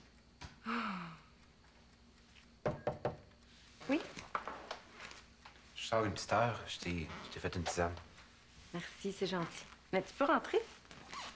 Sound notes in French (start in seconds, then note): 0.6 Elle soupire; 2.6 On frappe à la porte